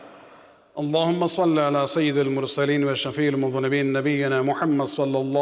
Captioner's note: arabic